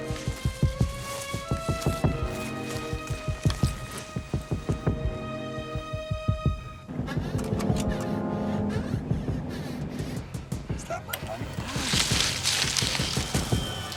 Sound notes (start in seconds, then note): 7.4 interface whirring